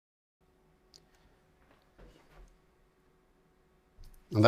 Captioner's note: silence